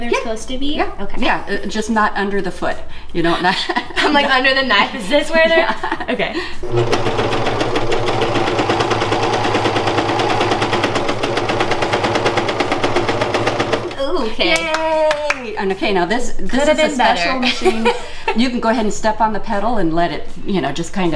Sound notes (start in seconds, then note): 5.3 laughing; 6.6 machine humming; 14.5 clapping; 17.4 laughing